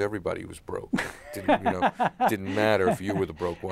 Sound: laughs

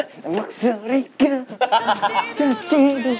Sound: voice cracking

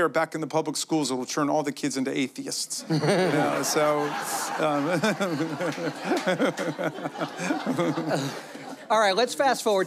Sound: laughter

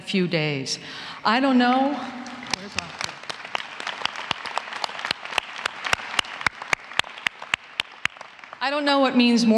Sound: applause

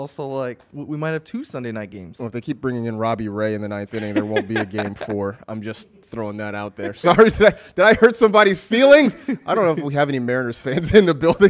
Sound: laughs

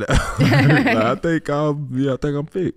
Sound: all laughing

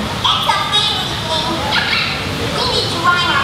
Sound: laughs

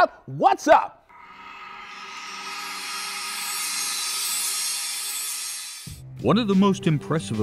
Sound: sound Effects

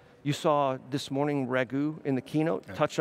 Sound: none

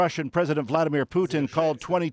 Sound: speaking alternate language

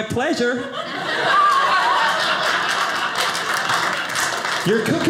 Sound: audience laughing

